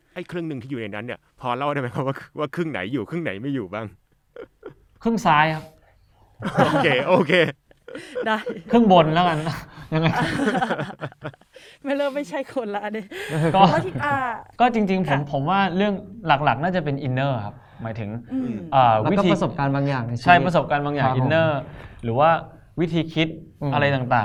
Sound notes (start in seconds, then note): 10.2 laugh